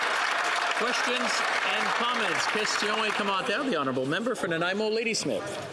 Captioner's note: some Applause